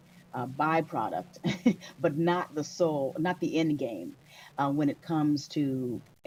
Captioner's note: laughter